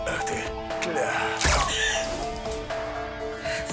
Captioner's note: gunshot